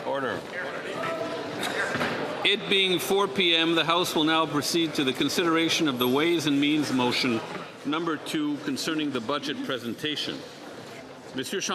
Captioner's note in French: voix de l'interprète